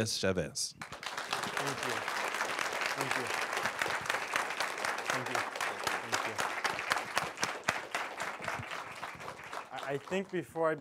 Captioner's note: applause